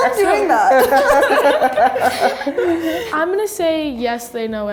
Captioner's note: laughing